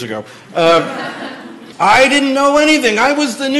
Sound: laughter

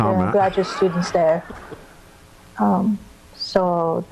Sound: laughing

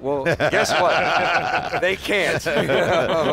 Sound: men laugh

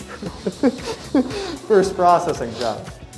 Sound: laughing

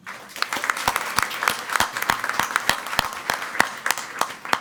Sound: crowd clapping

